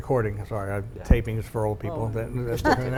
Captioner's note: laughing